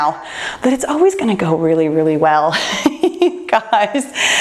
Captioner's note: laughs